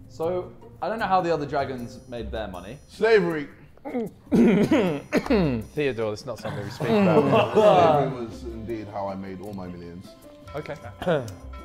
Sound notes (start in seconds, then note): 3.8 Ethan clearing throat